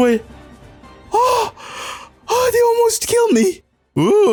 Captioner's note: sounds of relief